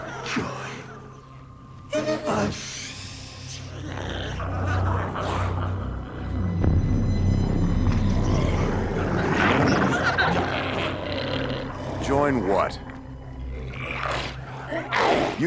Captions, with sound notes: - Join us. (glowzies growling) (intense music) - Join what? (glowzies growling)